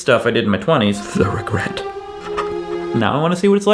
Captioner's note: emotional music; sobs